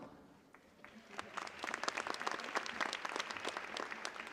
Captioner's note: cheers and applause